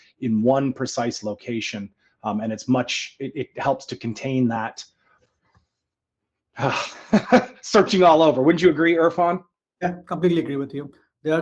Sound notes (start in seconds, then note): 6.6 chuckles